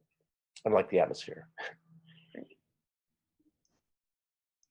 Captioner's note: chuckles